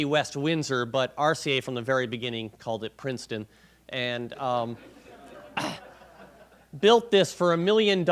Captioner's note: clears throat